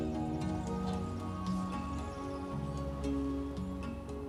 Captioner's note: birds chirping; gentle upbeat music